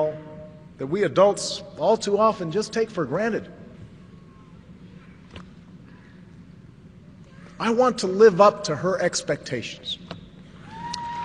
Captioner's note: applause